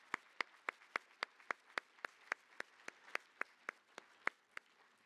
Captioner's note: applause